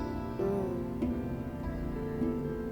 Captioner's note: Fortune Teller hums